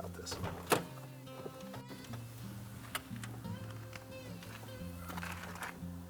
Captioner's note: soft music; car doe opening